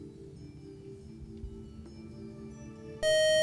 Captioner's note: loud buzzer